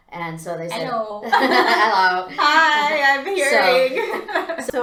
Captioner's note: laughter